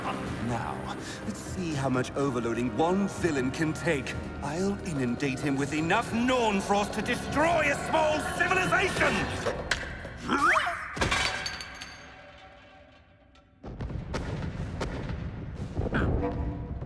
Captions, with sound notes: Now, let's see how much overloading one villain can take. I'll inundate him with enough Norn Frost to destroy a small civilization. [YELP] [CLATTER] [OVERLOAD EXPLOSIONS]